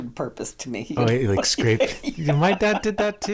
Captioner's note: laughs